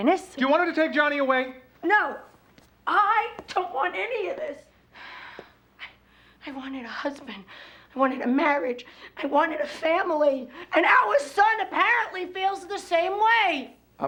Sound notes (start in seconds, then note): 3.9 sighs